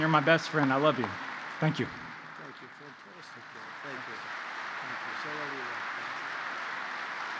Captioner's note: applause